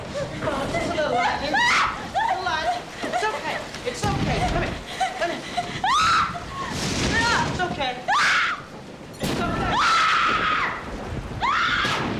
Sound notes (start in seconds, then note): 5.8 Bonnie shrieks; 5.8 Bonnie shrieking